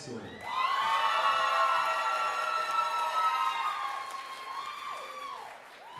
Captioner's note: audience cheering and applauding